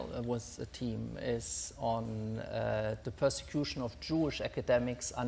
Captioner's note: none